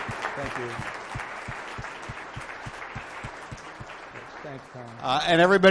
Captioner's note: crowd applauds